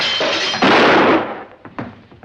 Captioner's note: gunshot